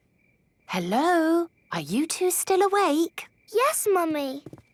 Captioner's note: whisper